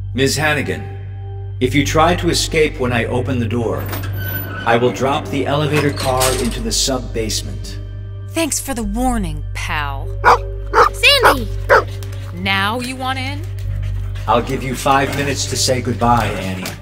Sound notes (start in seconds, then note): 3.9 door creaks; 10.7 Sandy barks